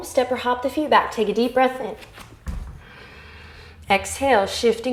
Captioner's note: inhale